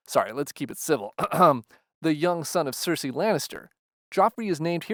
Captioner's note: ahem